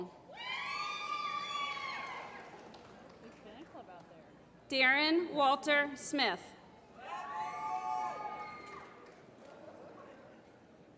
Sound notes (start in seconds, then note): 1.3 applause; 6.6 applause